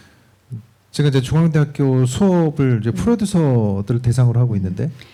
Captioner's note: speaking korean